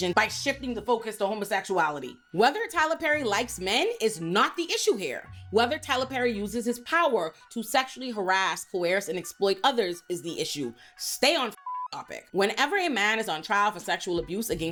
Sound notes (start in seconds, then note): 11.6 beep